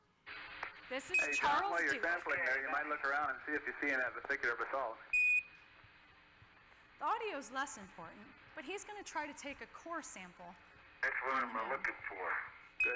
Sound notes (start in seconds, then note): 0.1 static; 1.0 beeping; 5.1 beeping